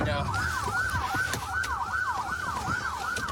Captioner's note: sirens blaring